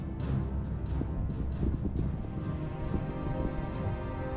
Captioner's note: earth rumbling